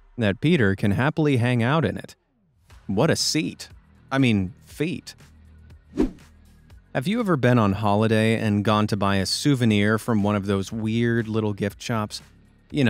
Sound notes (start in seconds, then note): 5.9 swoosh